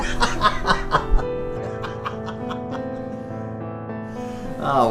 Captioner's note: don's distant laughter